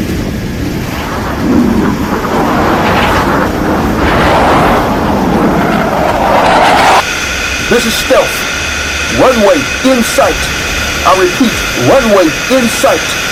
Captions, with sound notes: (engine roaring) This is Stealth. Runway in sight. I repeat, runway in sight.